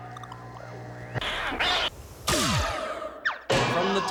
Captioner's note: screeching, pounds